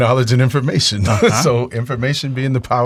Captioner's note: laughs